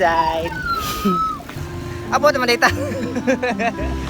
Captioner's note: laughs